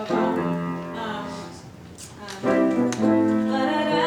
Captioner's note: humming melody